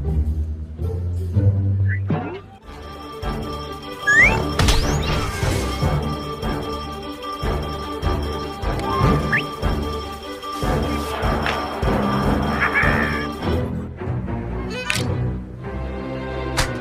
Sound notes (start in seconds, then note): 3.2 news theme; 10.9 rioting sounds, Angel Dust cackling